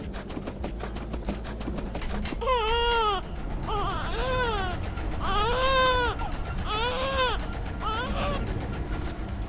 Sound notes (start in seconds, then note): 2.2 baby crying